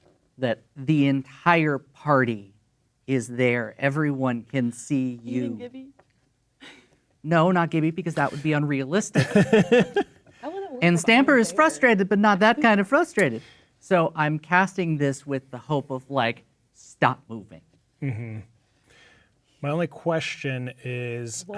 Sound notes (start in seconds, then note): 9.1 laughing